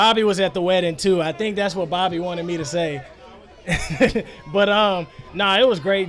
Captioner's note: laughs